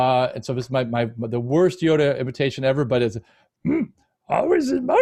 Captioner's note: imitating yoda